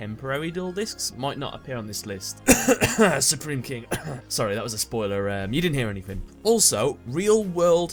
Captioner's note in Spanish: cough